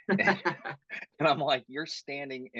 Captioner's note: laugh